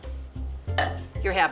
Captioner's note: clanking